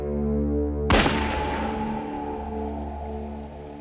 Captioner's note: gunshot